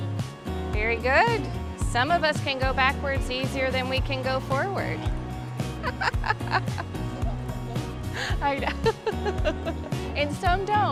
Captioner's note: she laughs